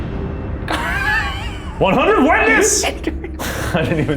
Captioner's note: laughs